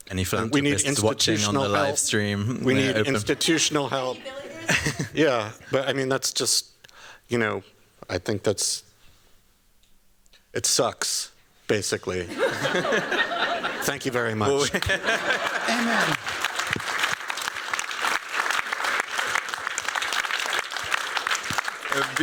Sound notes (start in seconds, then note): 4.3 giggles; 12.2 laughter; 14.7 laughter and applause; 16.3 applause